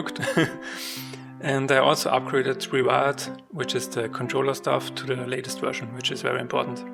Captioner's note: laughs